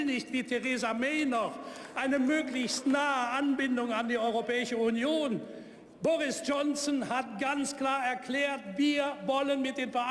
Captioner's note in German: Beifall bei Abgeordneten der SPD – Zurufe von der AfD